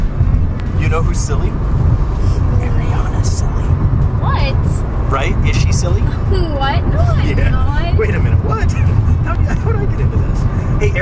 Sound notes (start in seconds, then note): 6.9 laughs